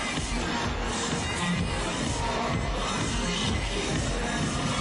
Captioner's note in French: Cris de la foule